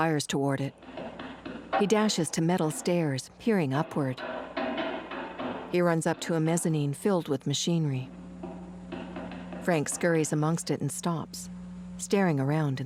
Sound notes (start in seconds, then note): 1.0 clanking footsteps